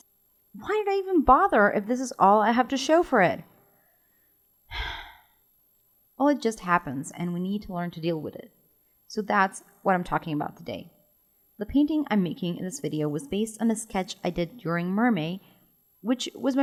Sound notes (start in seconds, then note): 4.7 sigh